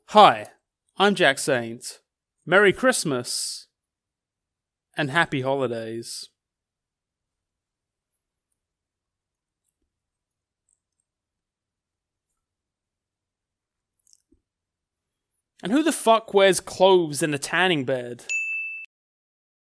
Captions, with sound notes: Hi, I'm Jack Saint, merry Christmas and happy holidays. And who the fuck wears clothes in the tanning bed? (dinging)